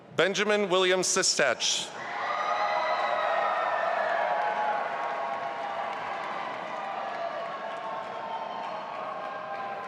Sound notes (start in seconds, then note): 2.2 audience applauding and cheering